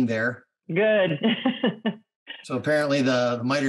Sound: laughs

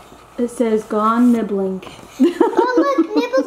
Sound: laughs

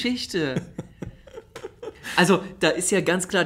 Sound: laughs

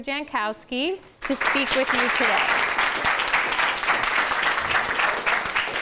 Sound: class applauding

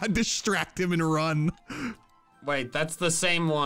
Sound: laughs

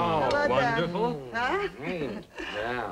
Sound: appreciative noises

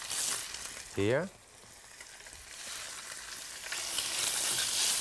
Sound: pan sizzling

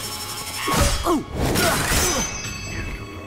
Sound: grunting

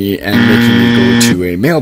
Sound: Buzzer sound, like that on TV game show "Family Feud"

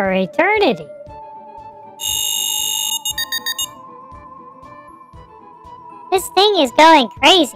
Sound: ghost detector goes off

